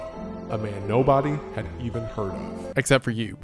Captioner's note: distorted voice